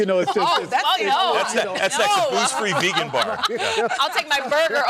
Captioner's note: laughter